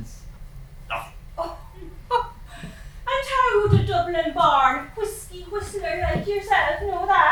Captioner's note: laughs